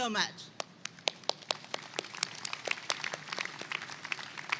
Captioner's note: attendees clapping